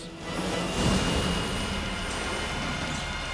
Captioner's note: aircraft booms; tense music